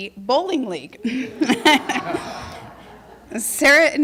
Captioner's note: laughter